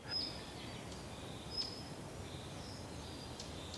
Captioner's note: birds and forest sounds